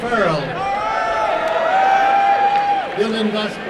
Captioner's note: applause and cheering